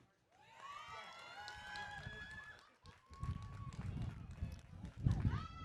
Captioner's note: audience cheering